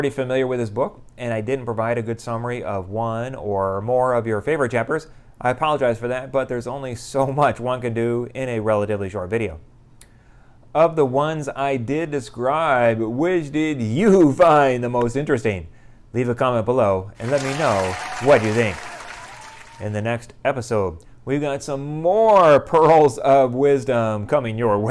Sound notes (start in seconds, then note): 17.2 applause